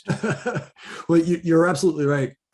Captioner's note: laughing